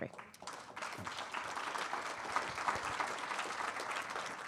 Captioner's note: attendees applauding